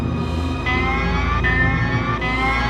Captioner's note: alarm